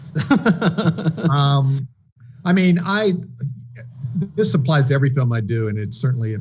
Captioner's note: chuckling